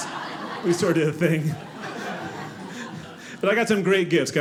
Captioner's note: audience laughing